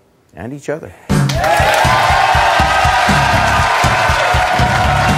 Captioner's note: audience clapping and cheering; metal music